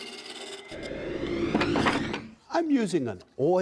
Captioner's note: whooshing